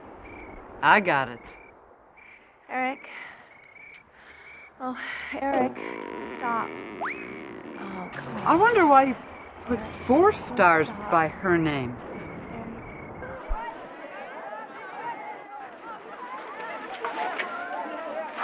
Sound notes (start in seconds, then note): 5.6 cartoonish whistle blowing; 14.8 students talking